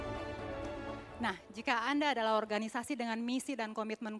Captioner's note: speaking indonesian